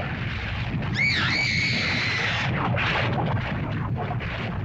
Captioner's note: lava bubbles & flows; girl screams; lava bubbles & flows